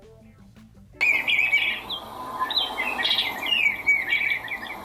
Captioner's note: bluebird chirping